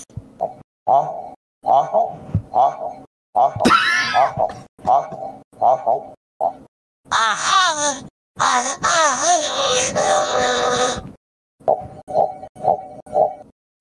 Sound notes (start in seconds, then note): 8.4 robotified moaning; 11.2 Cursed Obama noises